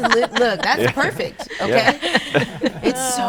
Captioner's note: all laughing